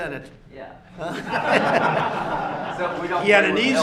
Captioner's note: laughter